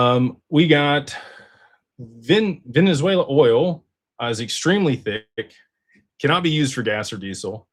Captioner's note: sighs